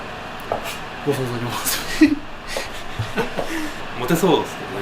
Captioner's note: laughs